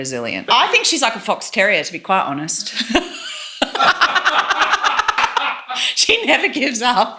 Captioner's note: laughs